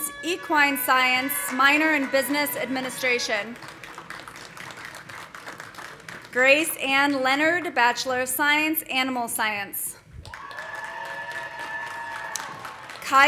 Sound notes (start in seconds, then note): 2.0 horn tooting; 5.5 audience applauding; 10.2 audience cheering; 10.2 audience applauding